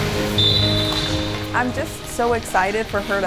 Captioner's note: whistle blows